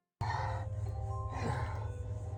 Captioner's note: mysterious grunting